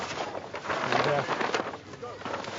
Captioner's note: rustling